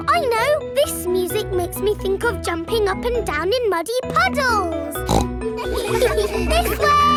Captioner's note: snorts; giggles